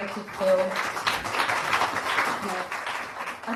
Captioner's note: applause